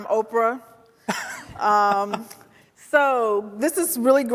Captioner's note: laughing